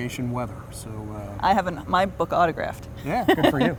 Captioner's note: laughs